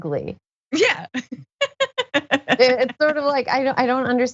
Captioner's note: laugh